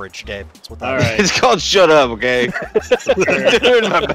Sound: laughter

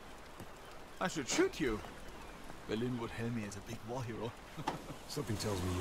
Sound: laughs

